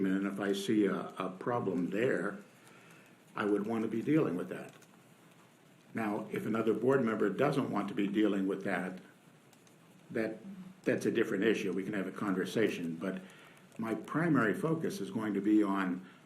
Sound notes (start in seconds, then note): none